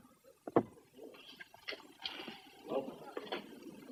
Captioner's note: all chattering